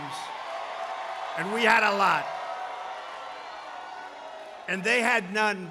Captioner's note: applause